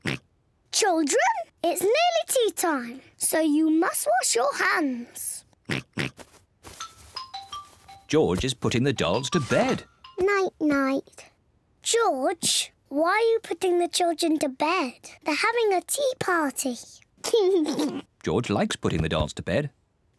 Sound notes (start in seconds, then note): 5.7 oinks; 17.3 laughs